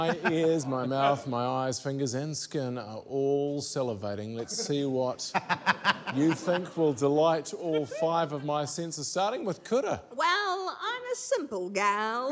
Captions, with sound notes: - My ears, my mouth, my eyes, fingers and skin are all salivating. Let's see what... (LAUGHTER) ...you think will delight all five of my senses, starting with Kura. - Well, I'm a simple gal.